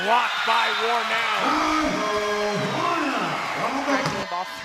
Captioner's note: cheering